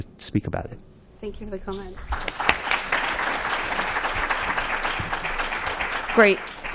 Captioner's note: applause